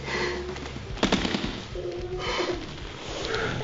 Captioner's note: sobbing